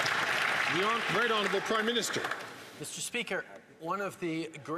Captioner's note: some Applause